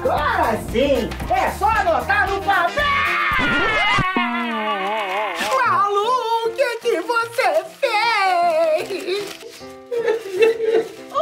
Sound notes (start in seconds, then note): 2.6 screaming; 5.5 crying; 9.9 sobbing